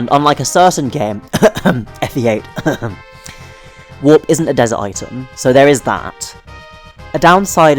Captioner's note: cough* FE8 *cough